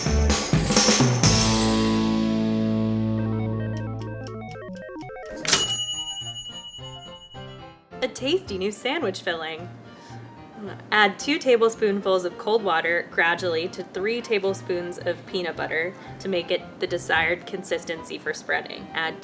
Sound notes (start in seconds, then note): 0.0 upbeat instrumental music; 3.4 appliance pings; 4.9 timer rings; 6.7 old-time piano music